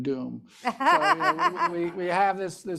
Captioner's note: laughing